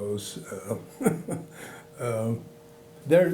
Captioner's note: chuckling